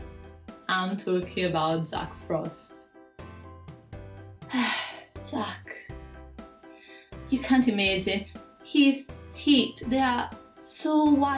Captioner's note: sigh